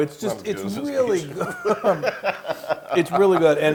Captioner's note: laugh